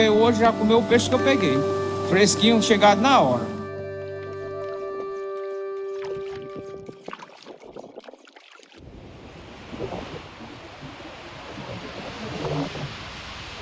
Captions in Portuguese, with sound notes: já comeu o que peguei, fresquinho chegando na hora. [Ondas do mar]